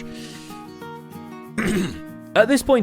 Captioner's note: ahem